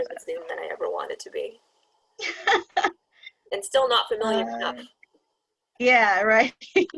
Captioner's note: laughter